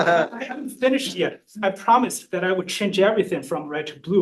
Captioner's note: laughter